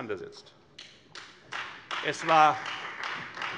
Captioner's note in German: Beifall Freie Demokraten